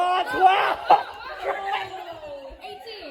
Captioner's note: loss of Emotions, Laughing Really Hard